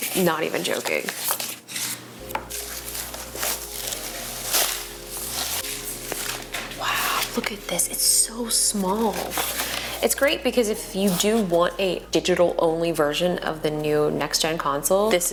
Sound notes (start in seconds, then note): 4.1 paper crunkles